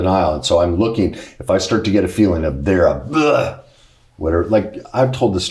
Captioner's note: imitates throwing up